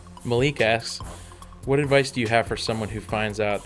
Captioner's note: voiceover